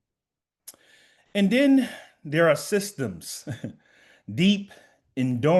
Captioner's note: laughs